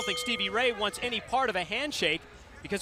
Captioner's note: bell ringing